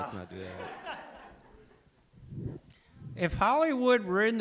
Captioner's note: laughs